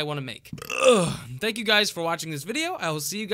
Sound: Belch

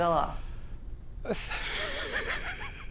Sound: laughter

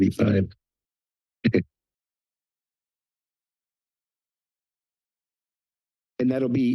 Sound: silence

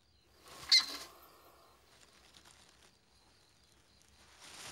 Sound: hamster squeaks

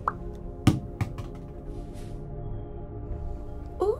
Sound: apple thuds

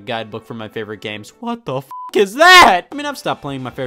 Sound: beep

